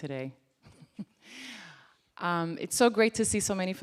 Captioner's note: chuckles